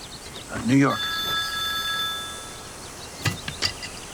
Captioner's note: birds chirping; phone ringing; weight clanging